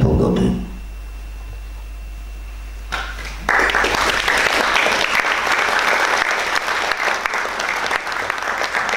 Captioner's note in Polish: oklaski